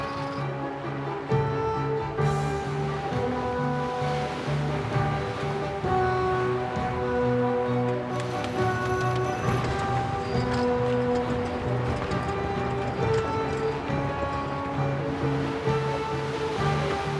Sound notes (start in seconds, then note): 0.1 triumphant music builds; 7.8 winch clicking; 8.5 sails flapping; 13.2 water rushing